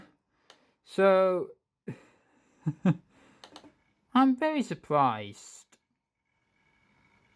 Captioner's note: chuckle